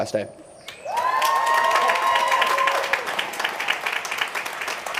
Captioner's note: crowd cheering